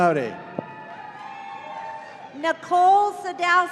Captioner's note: audience cheering